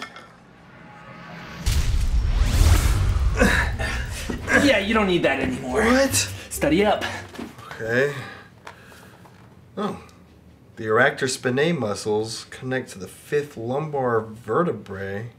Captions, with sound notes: (zapping) (grunts) Yeah, you don't need that anymore. - What? - Study up! Okay. Oh. The erector spinae muscles connect to the fifth lumbar vertebrae?